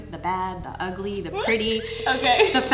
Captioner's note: squealing